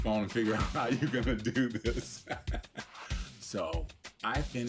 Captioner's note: laughing